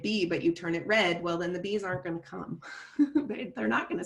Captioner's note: chuckles